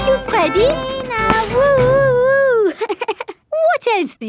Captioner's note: chuckles